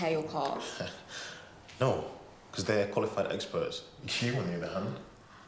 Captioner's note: laughs